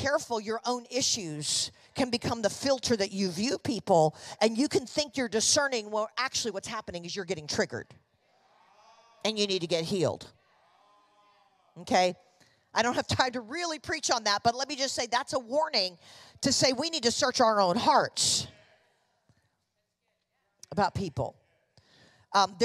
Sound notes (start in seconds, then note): 10.9 congregation affirming